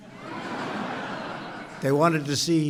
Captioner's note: laughter